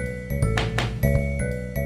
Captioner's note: deng-deng!